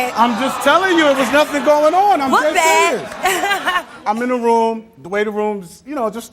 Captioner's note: laughter